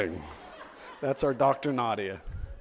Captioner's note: audience laughs